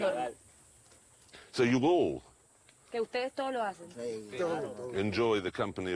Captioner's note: they speak spanish